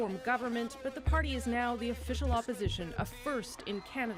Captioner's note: cheers and Applause